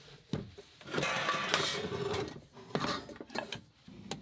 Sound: pots scratching

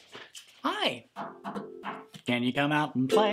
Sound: knocks on ukulele

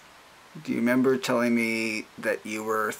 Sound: voiceover

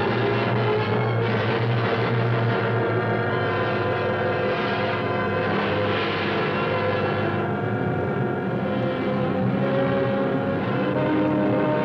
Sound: machinery whirring

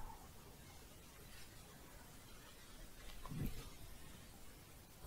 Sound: shuffling

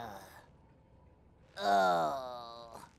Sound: groaning

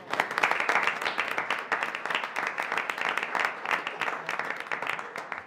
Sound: audience applauding

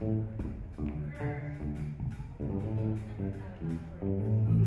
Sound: audience chatter

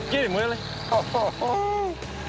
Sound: laughter

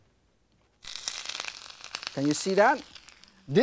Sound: oil sizzling

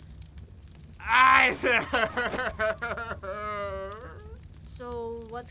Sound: sobs

